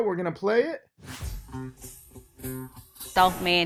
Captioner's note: air whooshes; upbeat music